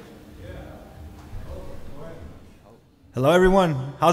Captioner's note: audience talking